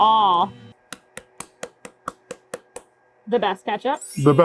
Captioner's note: ketchup bottle tapping